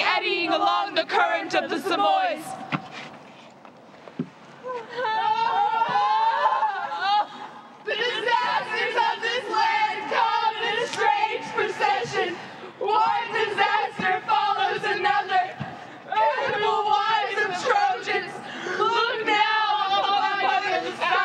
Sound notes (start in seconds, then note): 7.5 crying